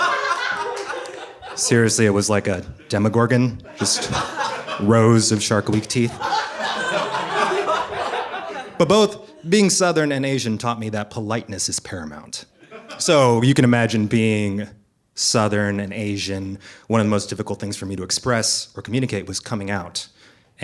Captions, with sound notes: Seriously, it was like a Demogorgon, just rows of Shark Week teeth. (audience laughing) But both being Southern and Asian taught me that politeness is paramount. So you can imagine being Southern and Asian. One of the most difficult things for me to express or communicate was coming out.